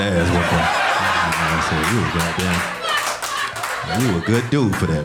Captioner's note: audience laughing